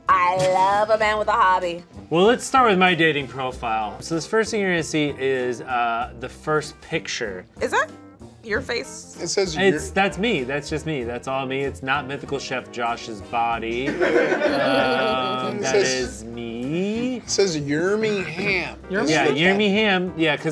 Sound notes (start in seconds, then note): 13.8 people laughing